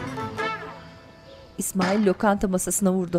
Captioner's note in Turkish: Masaya vurma sesi